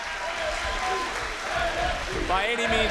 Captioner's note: crowd cheering